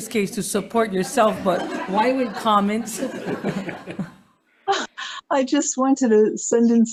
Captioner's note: members laughing